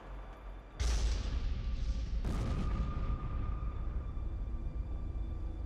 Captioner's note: thunderous booming; droning instrumental music